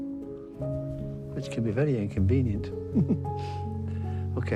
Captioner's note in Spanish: risas